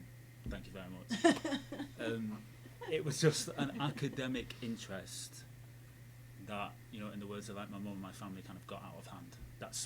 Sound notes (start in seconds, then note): 1.2 laughing